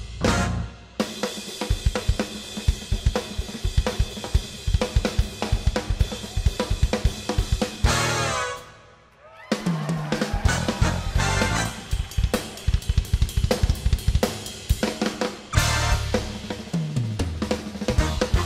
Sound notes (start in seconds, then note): 3.8 drum solo; 9.1 cheers